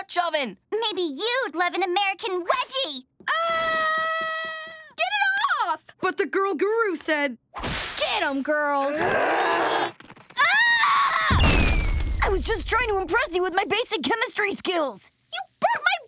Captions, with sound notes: Maybe you'd love an American Wedgie! [screaming] Get it off! But the Girl Guru said... Get him girls. Ugh! [screaming] I was just trying to impress you with my basic chemistry skills. You burnt my braids.